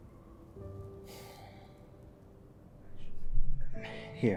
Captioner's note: gentle music continues; Ryan sighing